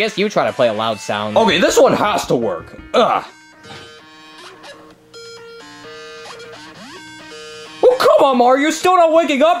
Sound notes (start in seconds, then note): 3.6 grunting; 5.1 weird tones